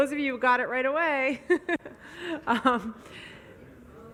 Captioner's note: laughs